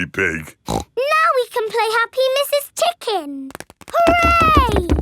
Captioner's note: snorts